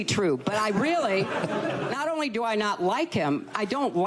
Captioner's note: laughter